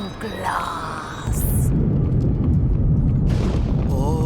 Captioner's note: ominous krakuum